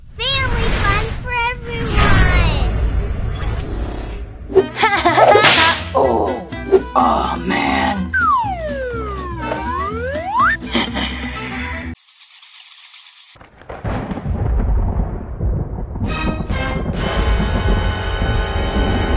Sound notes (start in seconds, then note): 4.6 Gekko Laughing; 6.2 zombie Growling; 8.1 slide Whistle; 10.1 skull Laughing; 12.0 bats Chirping; 13.4 thunder And Lighting Crackling; 16.0 dramatic Music